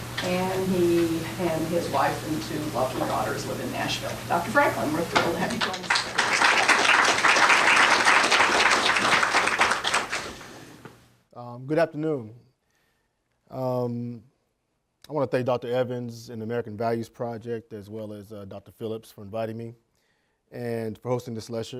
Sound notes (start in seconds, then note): 5.2 applause